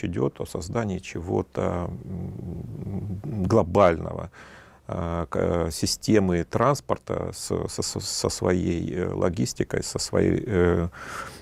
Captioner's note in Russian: фыркает